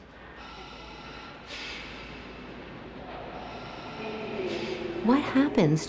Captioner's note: machine expelling air, voices echoing in distance